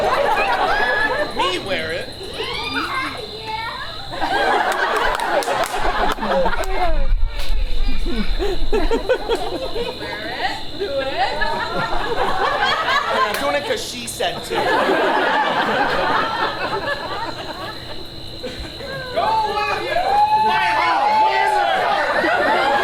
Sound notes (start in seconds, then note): 0.0 audience laughs; 4.1 audience laughs; 4.4 audience applauds; 11.7 audience laughs